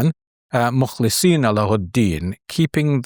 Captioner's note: speaks Arabic